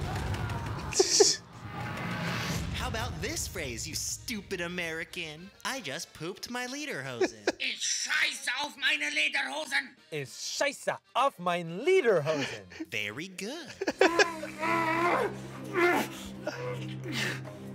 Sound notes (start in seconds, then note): 0.2 screams; 0.9 laugh; 7.7 instructor speaks in German; 10.2 speaks in German; 14.0 grunting